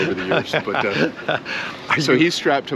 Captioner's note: laughs